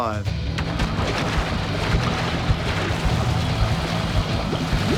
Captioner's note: splashing and bubbling